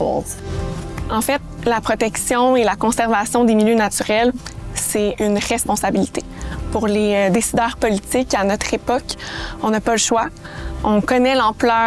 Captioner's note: speaking French